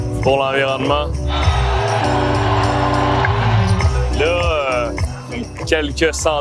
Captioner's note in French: cris de la foule